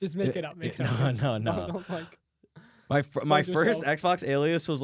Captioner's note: laughs